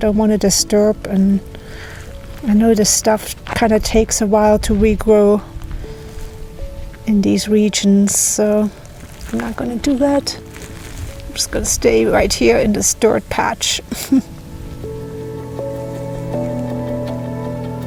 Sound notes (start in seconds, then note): 13.9 laughs; 16.2 sentimental music